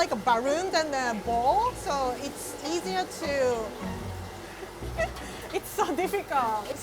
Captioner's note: chuckling